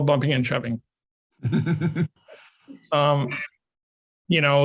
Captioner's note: laughs